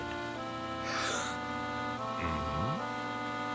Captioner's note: children gasping